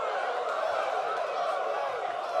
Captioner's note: fans chanting